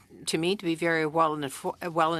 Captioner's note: speaking French